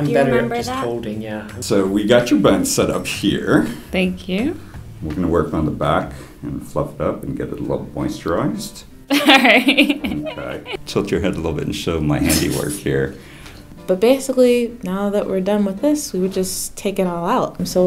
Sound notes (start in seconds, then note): 9.1 laughs; 12.2 laughs